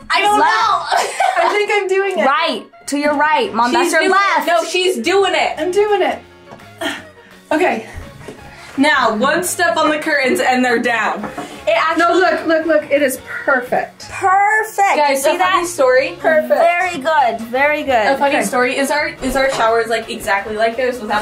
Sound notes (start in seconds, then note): 0.3 laughing; 6.8 grunting